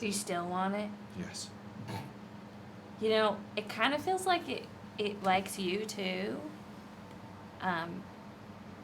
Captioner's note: laughs